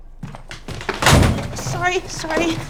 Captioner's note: thudding